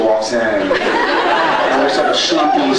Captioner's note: laughs, cheers